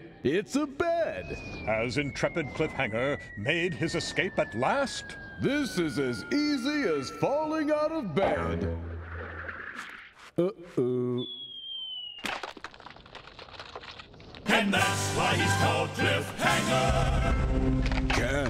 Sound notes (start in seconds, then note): 7.7 boing; 16.8 branch breaking